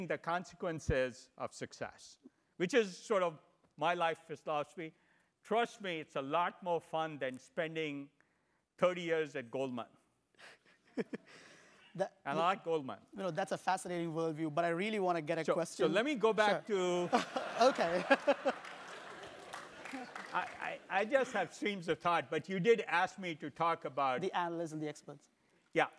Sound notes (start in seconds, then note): 13.4 laugh; 17.0 laugh; 17.3 applause